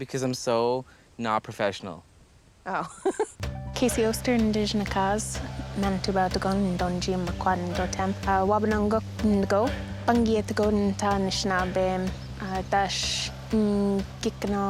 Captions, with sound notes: because I'm so not professional. Oh. (laughing) (speaking Ojibway) (speaking Ojibway)